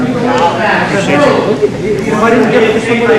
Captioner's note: overlapping chatter